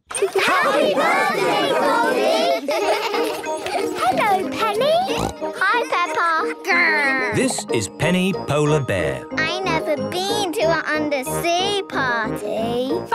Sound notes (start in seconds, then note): 2.3 laughter; 5.0 snorting